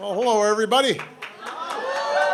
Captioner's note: applause